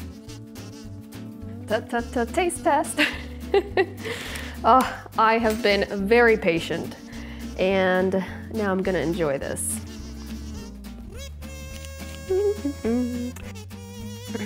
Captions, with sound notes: T-t-t-taste test! (laughs) I have been very patient, and now I'm gonna enjoy this. (light upbeat music)